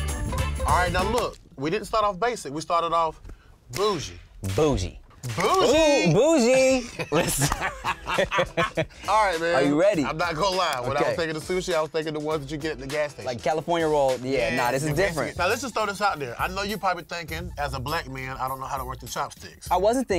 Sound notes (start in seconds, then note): 5.6 both laugh